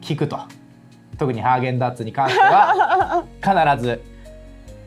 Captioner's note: laughs